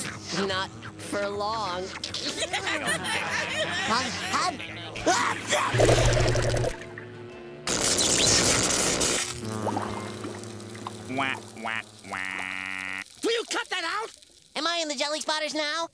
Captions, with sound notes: Not for long. [laughing] [sneezing] Wah, wah. Will you cut that out? Am I in the Jellyspotters now?